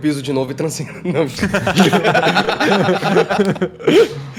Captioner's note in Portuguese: risadas